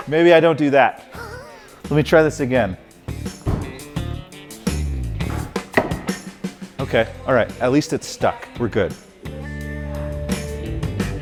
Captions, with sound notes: Maybe I don't do that. Let me try this again. (ax striking) Okay. All right. At least it stuck. We're good.